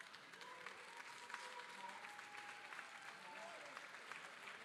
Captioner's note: applause